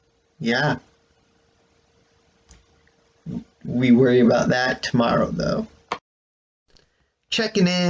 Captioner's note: click